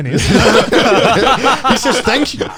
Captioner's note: men laugh